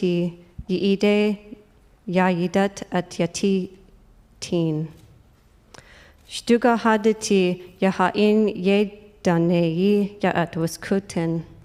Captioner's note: speaking native language